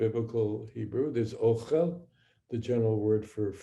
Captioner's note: speaking hebrew